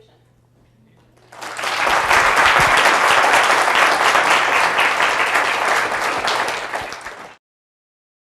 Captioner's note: applause